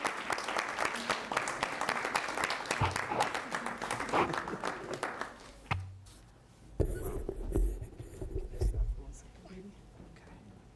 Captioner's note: applause